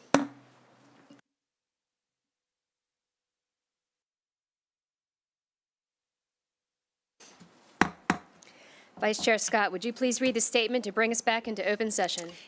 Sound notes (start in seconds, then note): 0.1 gavel hitting dais; 0.6 silence; 7.8 gavel hitting dais